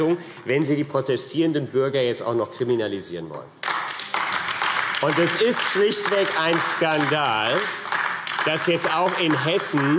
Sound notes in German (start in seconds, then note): 3.6 Beifall AfD